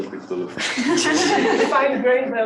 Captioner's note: laughter